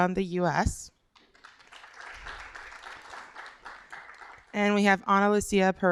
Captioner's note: applause